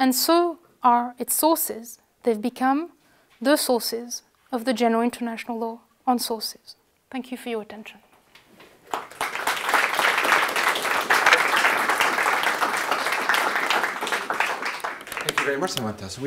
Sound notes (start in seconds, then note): 14.6 applause